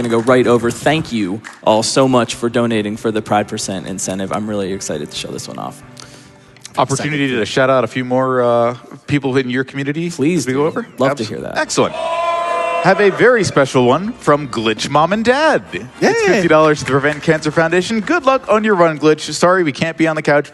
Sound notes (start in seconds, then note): 12.5 crowd